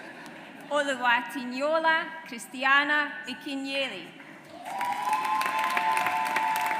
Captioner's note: audience applauds